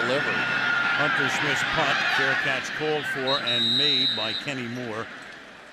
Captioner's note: pa announcement